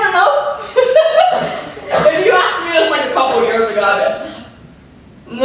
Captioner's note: laughter